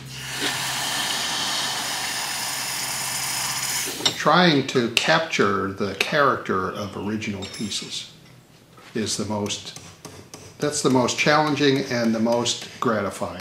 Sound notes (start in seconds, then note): 0.0 sound of hot wrought iron being submerged into water; 9.4 sound of a lighter hammer tool bending metal